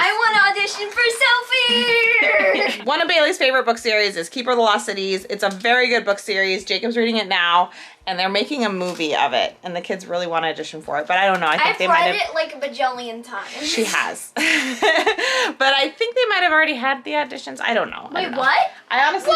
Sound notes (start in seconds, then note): 14.4 laughs